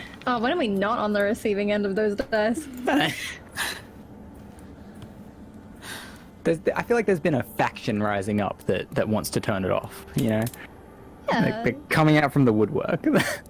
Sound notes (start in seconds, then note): 2.6 laugh